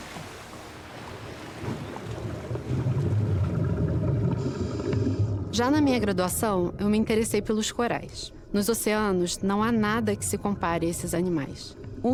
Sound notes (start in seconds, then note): 2.2 muffled underwater sounds